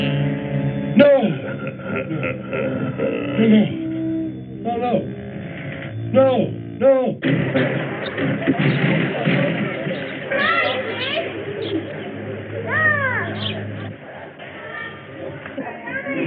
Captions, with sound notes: No! (sinister laughing) No! No. No! No!